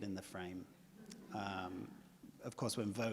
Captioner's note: audience laughs